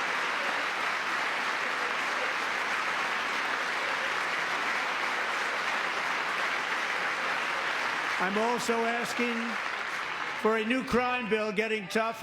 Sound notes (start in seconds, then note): 0.0 cheering; 2.8 applause